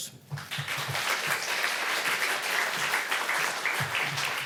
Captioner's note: applause